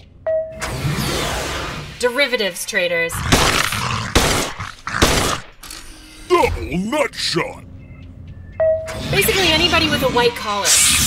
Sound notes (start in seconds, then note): 3.2 gunfire